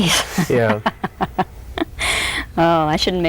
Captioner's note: laughs